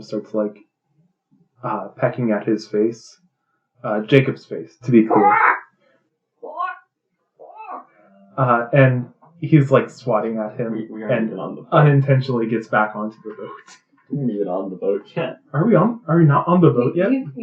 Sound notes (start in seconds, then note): 5.0 various raven noises